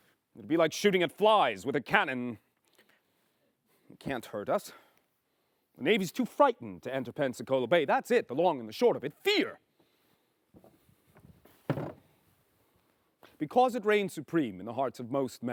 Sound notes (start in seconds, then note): none